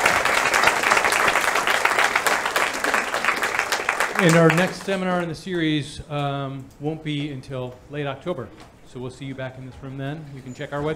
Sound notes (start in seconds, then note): 2.6 applause